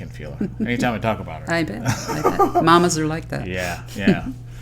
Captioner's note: laughter